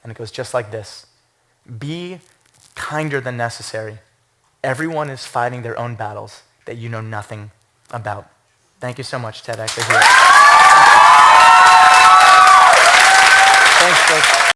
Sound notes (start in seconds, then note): 9.6 applause; 9.8 cheers